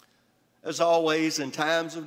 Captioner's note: none